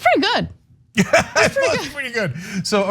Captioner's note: laugh